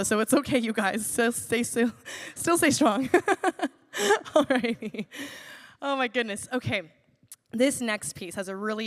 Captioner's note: laughs